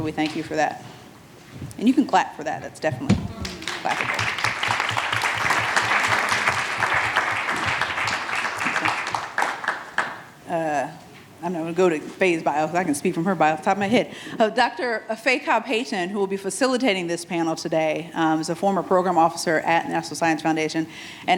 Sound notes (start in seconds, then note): 3.2 attendees applauding